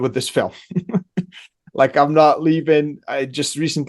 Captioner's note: laughs